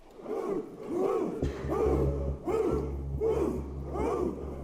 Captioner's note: protestors chanting